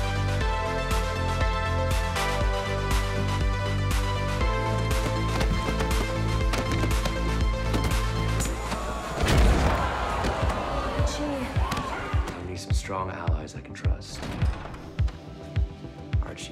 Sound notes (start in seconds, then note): 6.8 shoes tapping; 9.4 body slams; 14.0 door opens